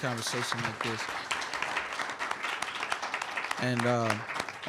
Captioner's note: applause